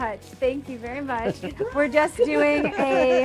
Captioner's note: laughing